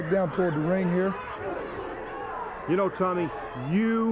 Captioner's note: crowd clamoring; blows thudding